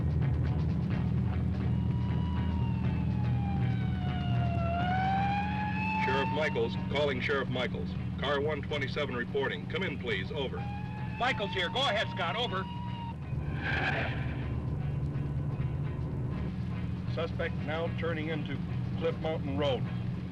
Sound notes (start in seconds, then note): 13.4 tires screech